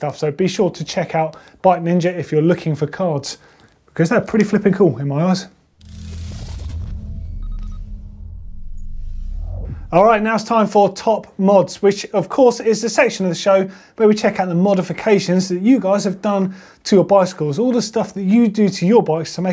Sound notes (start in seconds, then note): 5.9 digital beeping